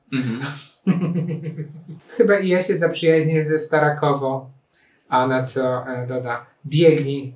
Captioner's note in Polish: śmiech